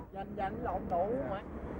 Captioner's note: dealer speaking in foreign language